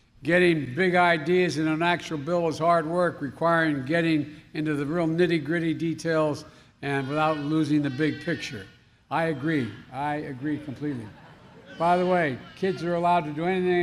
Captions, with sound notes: Getting big ideas into an actual bill is hard work, requiring getting into the nitty-gritty details and without losing the big picture. (A baby babbles.) I agree. I agree completely. (Laughter.) By the way, kids are allowed to do anything